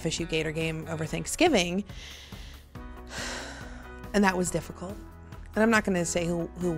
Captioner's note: sighs